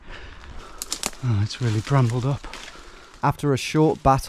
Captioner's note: twigs cracking